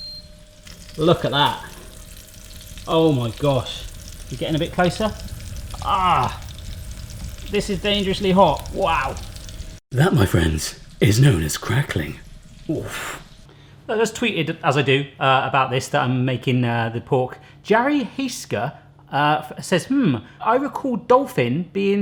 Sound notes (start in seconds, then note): 0.8 sizzling